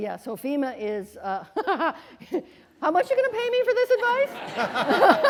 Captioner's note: laughing; laughter